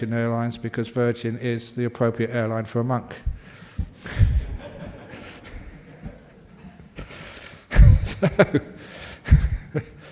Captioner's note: laughter